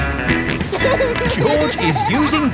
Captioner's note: snorts and laughs